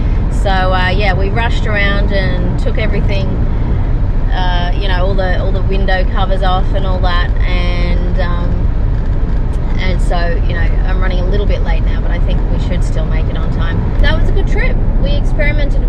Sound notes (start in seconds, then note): none